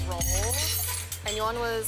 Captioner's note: utensils clanging